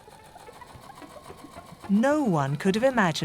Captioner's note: machine whirs; eerie music